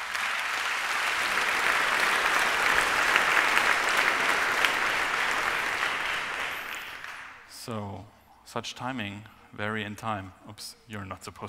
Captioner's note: applause